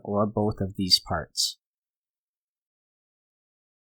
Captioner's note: pause